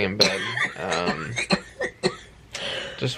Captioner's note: coughing